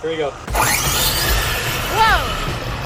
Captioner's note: tires whirring